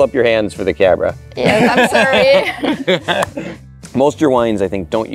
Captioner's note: laughs